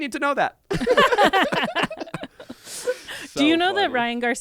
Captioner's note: everyone laughs